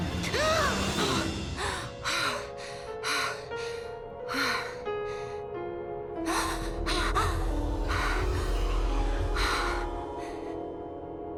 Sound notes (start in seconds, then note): 3.9 Mischa breaths heavily; 9.6 soft music